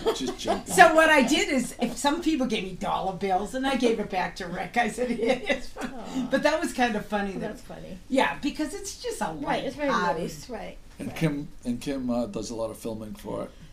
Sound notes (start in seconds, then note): 0.0 laughing; 7.5 voiceover